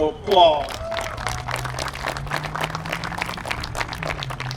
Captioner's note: applause